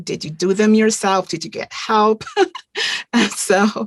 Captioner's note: chuckling